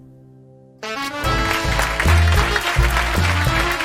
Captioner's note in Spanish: Aplausos